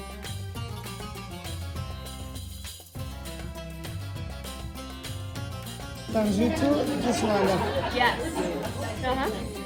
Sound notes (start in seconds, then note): 8.6 cheering and applause